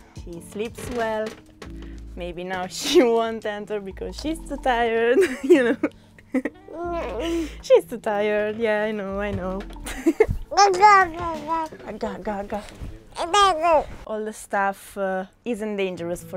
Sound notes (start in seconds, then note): 5.2 laughter